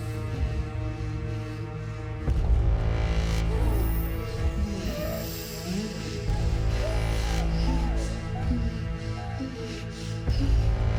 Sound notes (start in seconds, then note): 5.4 victims groaning; 6.9 dramatic music